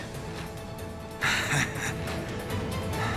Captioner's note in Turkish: Gülme sesi